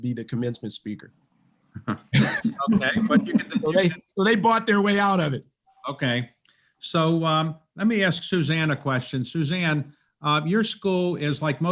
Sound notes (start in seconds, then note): 1.7 laughs